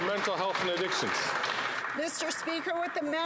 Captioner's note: some Applause